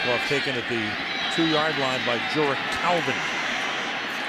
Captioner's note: pa announcement